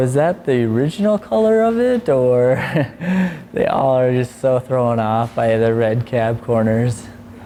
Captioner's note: laughs